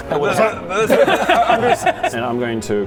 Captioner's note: hungry giggles